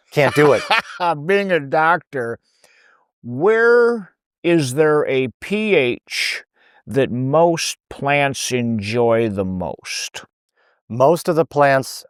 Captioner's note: laughs